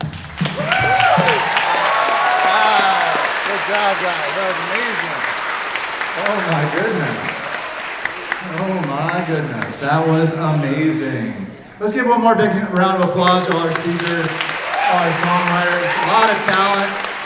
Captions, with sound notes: (everyone applauding) - Oh my goodness. Oh my goodness. That was amazing. Let's give one more big round of applause to all our speakers, our songwriters, a lot of talent,